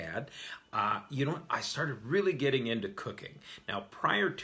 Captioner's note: none